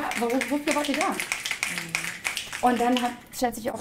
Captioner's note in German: Publikum schnipst